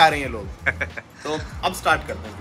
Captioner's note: laughter